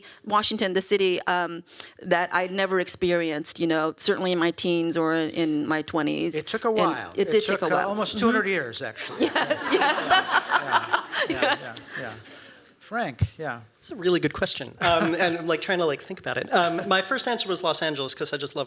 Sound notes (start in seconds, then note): 8.9 laughing